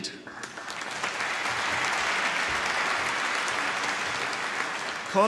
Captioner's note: applause